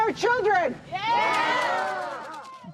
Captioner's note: crowd